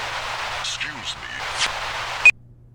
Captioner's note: Static